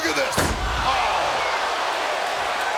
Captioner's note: body thudding